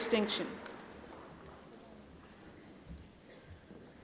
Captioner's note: applause